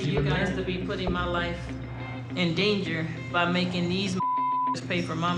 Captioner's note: beep